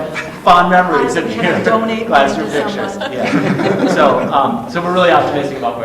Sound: all laughing

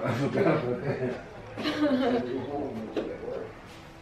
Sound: chuckling

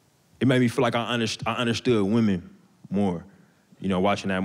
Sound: none

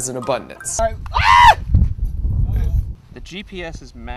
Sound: Mark Rober screams

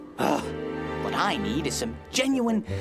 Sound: exasperated Sigh

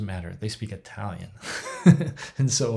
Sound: laughs

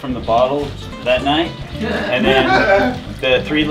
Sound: laughter in the room

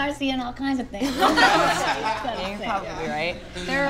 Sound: group laughing

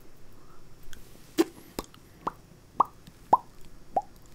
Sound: popping lips

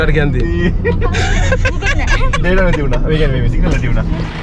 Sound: laughing

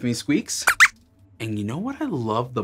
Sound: squeaks squeaks

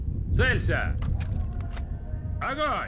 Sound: soldiers cocking rifles

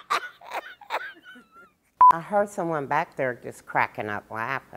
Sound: laughter

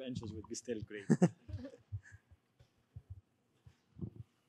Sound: laughing

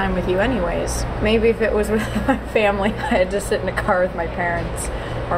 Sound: laughing

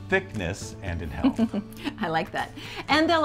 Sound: laughs

